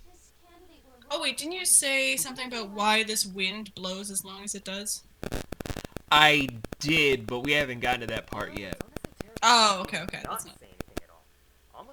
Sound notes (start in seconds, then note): 4.4 debris falls faintly